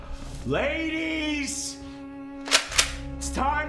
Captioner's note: shotgun clicks